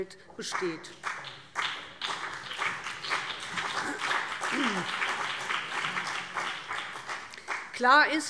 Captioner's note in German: Beifall BÜNDNIS 90/DIE GRÜNEN und vereinzelt CDU